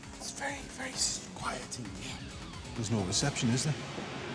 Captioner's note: whispering